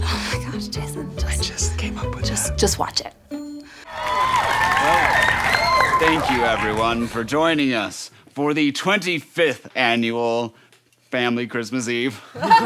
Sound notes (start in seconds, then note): 3.8 cheering; 12.4 laughing